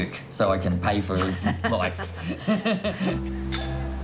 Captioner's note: both laugh